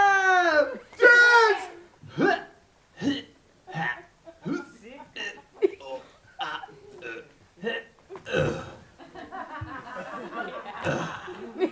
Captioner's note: scream; series of dying noises